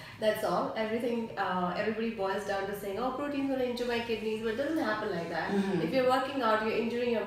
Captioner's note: hmm hm